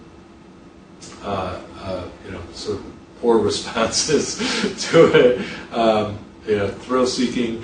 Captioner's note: chuckles